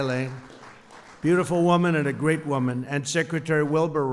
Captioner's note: applause